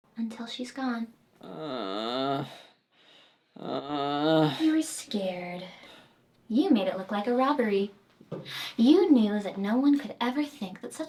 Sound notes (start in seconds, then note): 3.6 Nivek groans